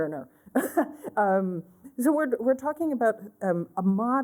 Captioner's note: laughter